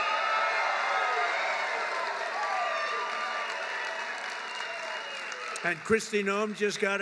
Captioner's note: applause